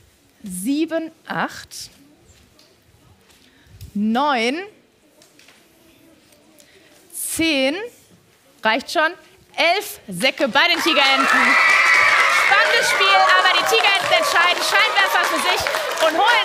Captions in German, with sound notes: Sieben, acht. Neun. Zehn, reicht schon. Elf Säcke bei den Tigerenten. (Jubel) Spannendes Spiel, aber die Tigerenten entscheiden Scheinwerfer für sich